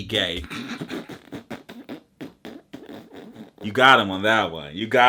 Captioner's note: laughs